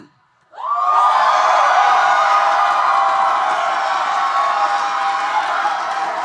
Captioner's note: audience cheering and applauding